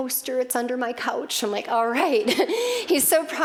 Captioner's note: laughing